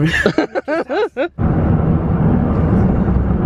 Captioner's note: laughs